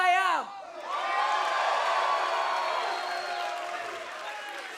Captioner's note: crowd cheering